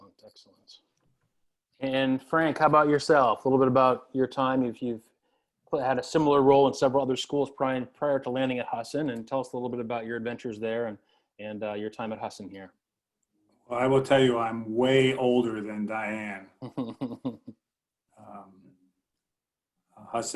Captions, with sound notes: - Excellent. And Frank, how about yourself a little bit about your time if you've had a similar role in several other schools prior to landing at Husson. And tell us a little bit about your adventures there and your time at Husson here. - I will tell you I'm way older than Diann. - (laughs)